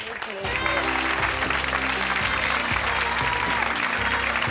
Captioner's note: audience applauds; saxophone music